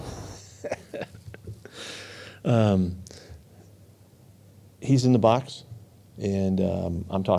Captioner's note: laughing